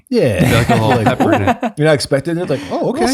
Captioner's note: laughs